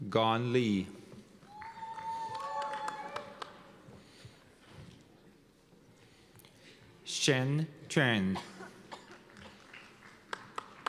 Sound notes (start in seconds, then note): 1.4 cheers and applause; 9.0 applause